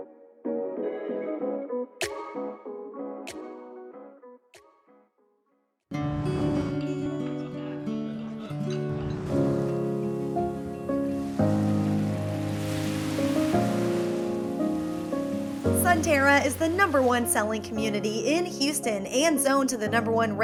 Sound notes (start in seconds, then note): 0.1 whoosh; 8.6 waves crashing on beach